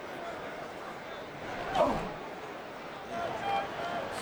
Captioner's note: crowd murmuring